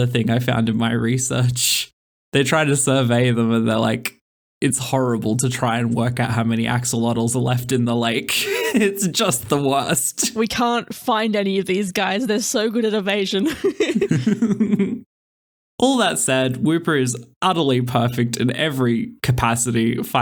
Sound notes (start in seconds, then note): 13.4 laughter